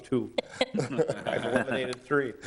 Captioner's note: all laughing